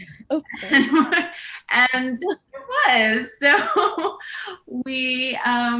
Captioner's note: laughs; laughs